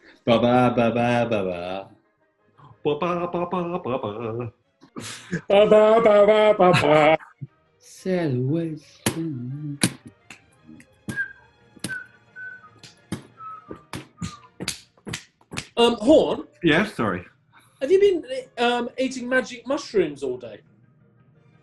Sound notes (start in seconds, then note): 11.0 whistles